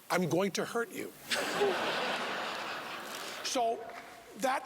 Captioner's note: laughing